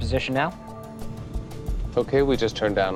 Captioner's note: airplane engine roaring